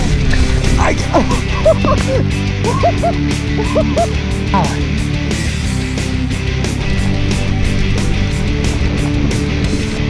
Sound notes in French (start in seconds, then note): 1.1 rires